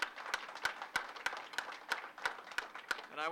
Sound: applause

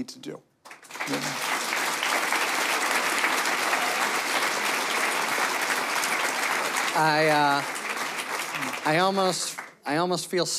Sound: applause

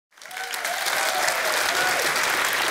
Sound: applause

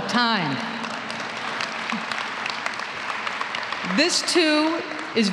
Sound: applause

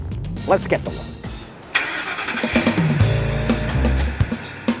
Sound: car starting; upbeat music

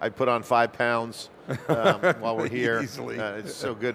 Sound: laughs

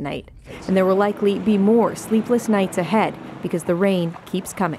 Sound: speaking French

